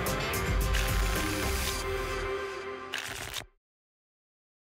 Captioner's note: tickets shuffling